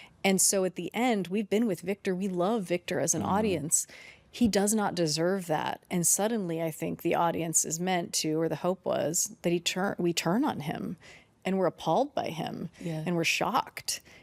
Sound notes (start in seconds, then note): none